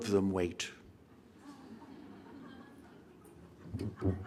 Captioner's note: audience chuckles